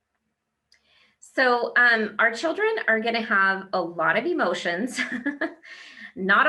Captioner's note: laughs